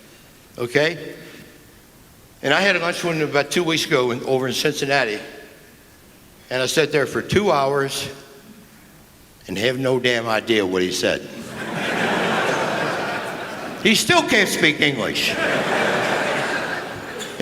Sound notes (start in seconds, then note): 11.3 laughter